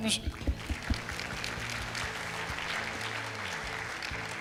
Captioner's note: clapping